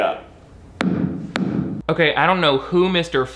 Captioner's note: staff thuds